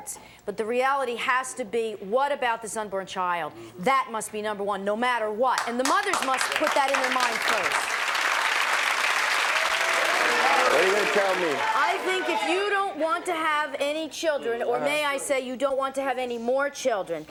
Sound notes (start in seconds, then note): 8.6 audience applauding